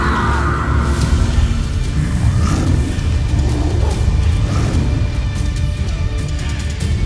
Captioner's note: powerful roar-whoosh; echoing screech; epic music playing